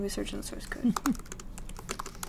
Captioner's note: laughs